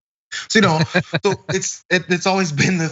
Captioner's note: laugh